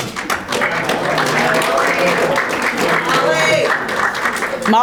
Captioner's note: audience applauding